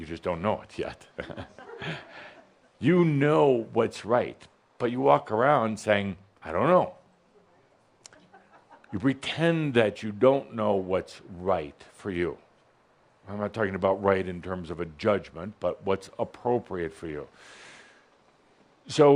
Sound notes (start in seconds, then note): 1.0 some chuckles